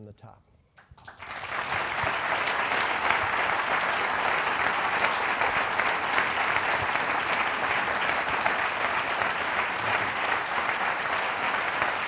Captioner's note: applause